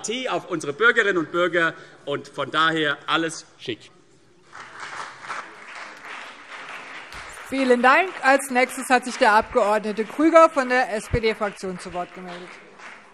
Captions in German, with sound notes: und auf unsere Bürgerinnen und Bürger stolz. Von daher ist alles schick. [Beifall CDU und BÜNDNIS 90/DIE GRÜNEN] Vielen Dank. - Als Nächster hat sich Herr Abg. Grüger von der SPD-Fraktion zu Wort gemeldet.